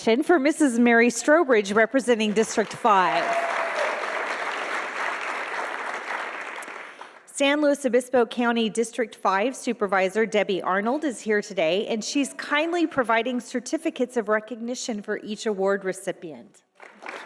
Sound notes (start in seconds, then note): 2.4 audience applauding